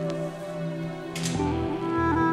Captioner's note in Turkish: Kapı açıldı